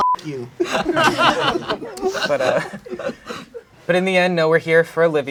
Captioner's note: crowd laughing